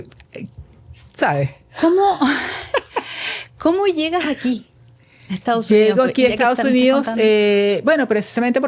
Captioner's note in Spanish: risas